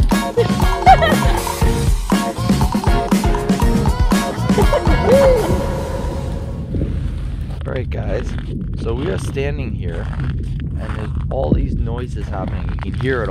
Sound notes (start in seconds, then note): 0.3 laughing; 7.0 cracking sounds